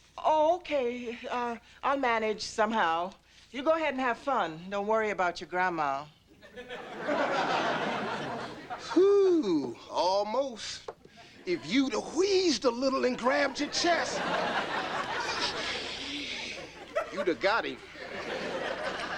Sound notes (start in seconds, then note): 6.4 audience laughing; 15.2 inhales